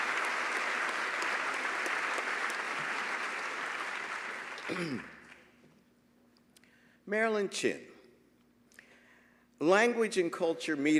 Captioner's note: applause